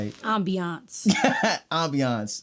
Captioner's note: laughing